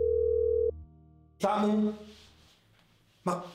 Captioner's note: phone rings